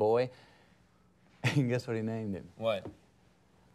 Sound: laughs

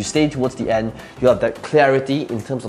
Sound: none

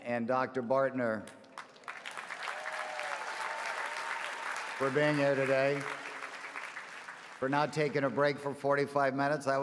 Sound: applause

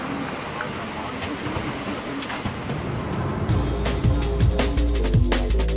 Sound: TV playing in background; rapid rhythmic music

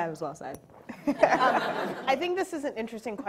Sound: audience laughs

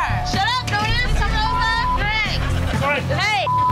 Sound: shouting over each other

